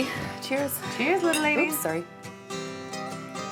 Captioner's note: glasses clinking